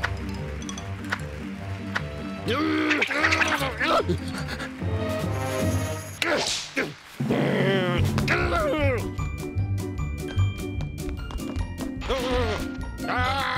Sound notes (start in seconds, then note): 2.5 grunting; 5.5 grunting